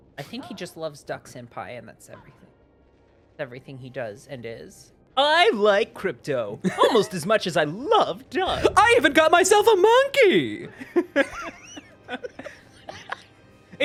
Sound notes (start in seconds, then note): 5.4 Hugh voice; 9.0 sort of Hugh voice, but also kind of a bougie woman voice?